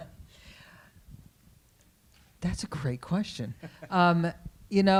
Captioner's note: laughs